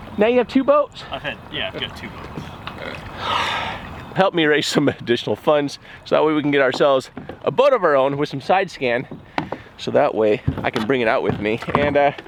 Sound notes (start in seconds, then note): 3.2 sigh